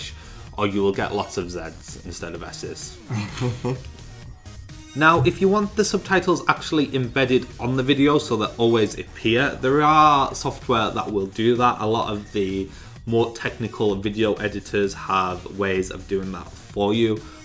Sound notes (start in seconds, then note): 3.0 laughter